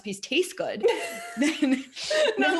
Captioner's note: laughing